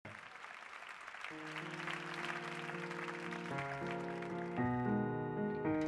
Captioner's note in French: Aplause